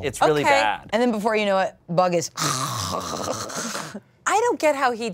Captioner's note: snores